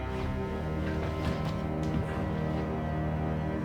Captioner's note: fabric rustles; dramatic music continues